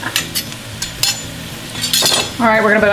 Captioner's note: metal clanking